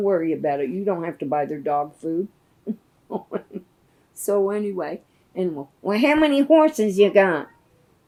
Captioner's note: laughs